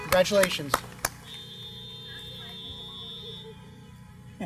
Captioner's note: applause